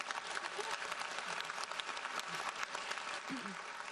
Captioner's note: audience applauds